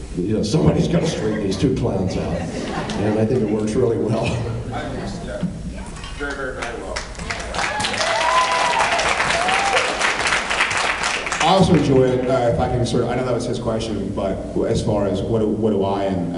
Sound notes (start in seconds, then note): 4.1 laughs; 6.3 applauds, cheers